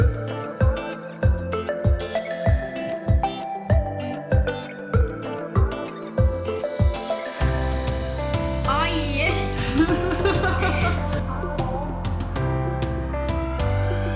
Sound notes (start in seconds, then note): 9.6 laughter; 11.6 bright music